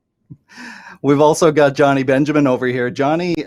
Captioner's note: laughing